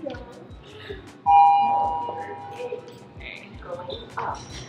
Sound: elevator dinging

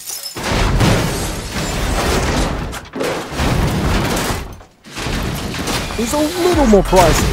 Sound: car crashing

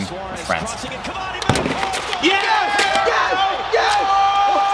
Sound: TV Cheering and Host announces Score

